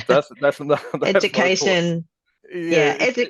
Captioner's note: laughs